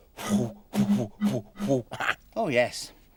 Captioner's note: blowing